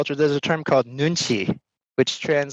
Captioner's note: foreign language